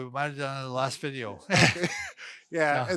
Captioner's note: men laughing